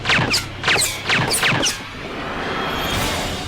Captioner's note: gun fires